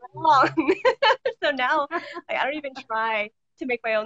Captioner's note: both laughing